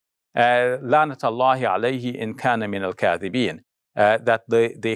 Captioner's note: foreign language